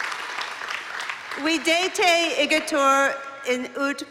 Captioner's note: non-english speech